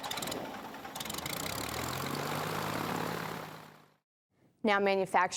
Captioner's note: engine sound